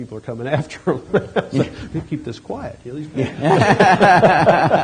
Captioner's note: laughs; laughter